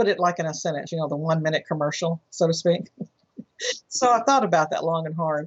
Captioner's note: laughs